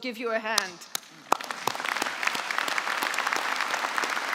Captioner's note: applause